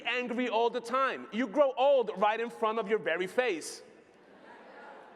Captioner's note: laughter